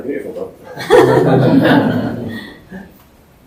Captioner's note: laughter